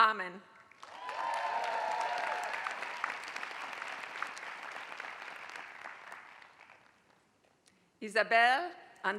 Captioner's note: applause